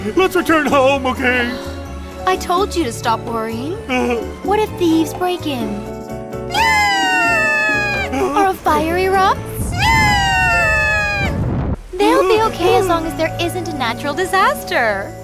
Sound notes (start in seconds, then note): 6.5 screaming; 9.6 screaming